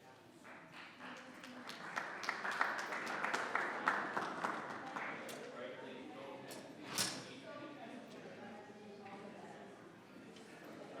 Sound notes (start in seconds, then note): 0.6 audience applauding; 4.8 members chattering